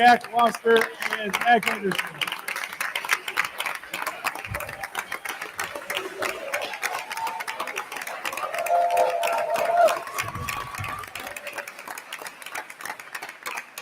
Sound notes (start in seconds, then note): 2.8 attendees continue applauding; 7.6 attendees cheering; 9.7 attendees continue applauding